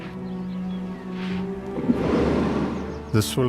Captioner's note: rumbling